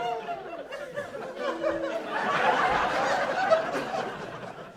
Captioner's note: laughing